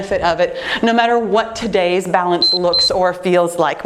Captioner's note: timer beeping